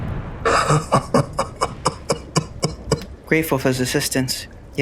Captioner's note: crazed old man laugh